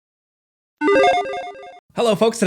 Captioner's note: electronic beeping